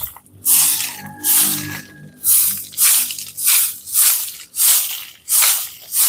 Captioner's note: sweeping